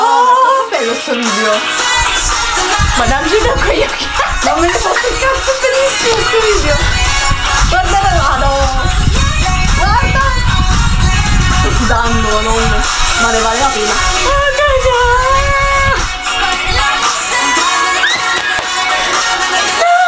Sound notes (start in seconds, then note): 3.3 lols